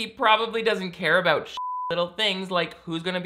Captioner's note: beep